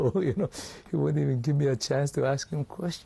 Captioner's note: laughs